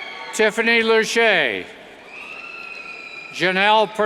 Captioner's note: cheers